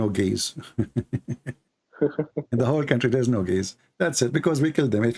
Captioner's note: Ketawa